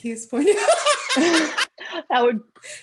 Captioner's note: laughter